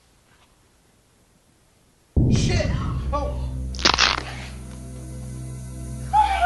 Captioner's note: snapping bone; Jenna cries